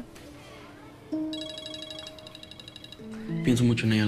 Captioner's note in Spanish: Suena el celular